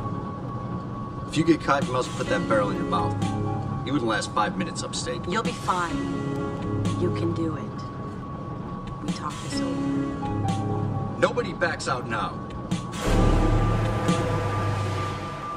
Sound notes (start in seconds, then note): none